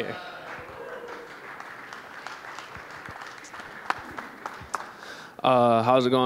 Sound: applause

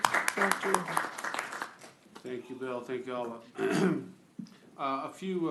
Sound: applause

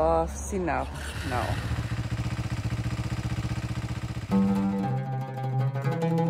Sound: motorbike roaring; pensive music

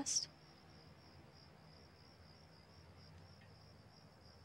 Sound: crickets chirping

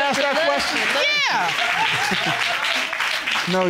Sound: audience cheering

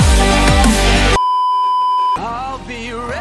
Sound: beeeeeep

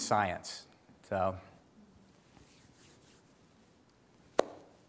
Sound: claps hands

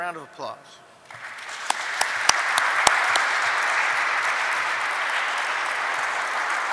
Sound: applause

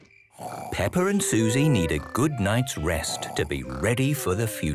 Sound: Peppa and Suzy snoring

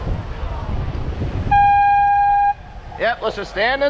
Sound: airhorn

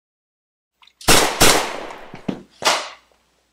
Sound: bang! bang!; crash

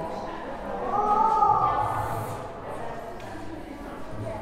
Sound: anonymous yelling echoes

